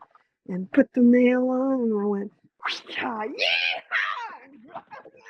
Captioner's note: whip sound